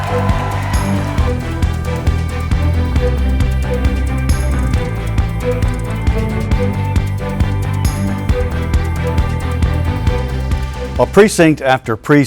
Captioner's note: cheering and applause